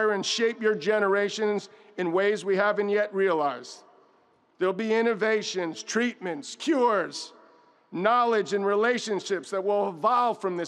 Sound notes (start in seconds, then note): none